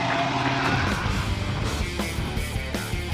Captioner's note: applause